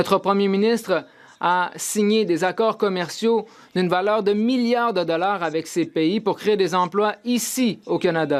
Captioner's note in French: voix de l'interprète